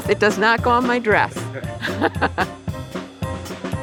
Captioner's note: laughs